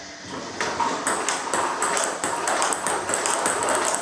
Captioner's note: ball ping pong hitting